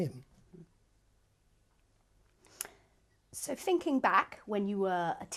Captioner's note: pauses for 3 seconds